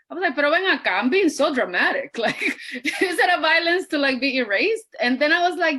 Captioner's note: laughs